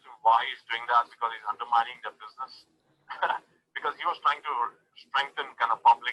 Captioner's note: chuckles